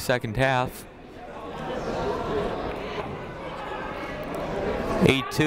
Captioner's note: people talking in the crowd